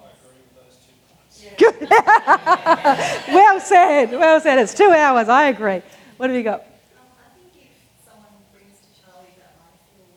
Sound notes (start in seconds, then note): 1.6 audience laughing